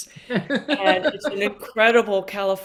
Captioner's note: laughing